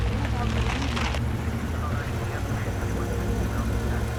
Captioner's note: police radio chatter